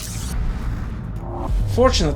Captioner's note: whooshing sound